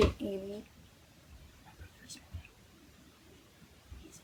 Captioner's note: whispered